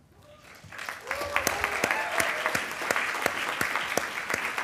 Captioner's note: attendees applauding